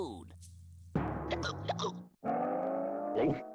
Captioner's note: hiccupping